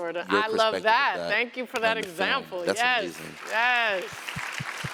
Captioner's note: applause